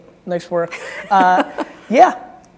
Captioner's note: chuckling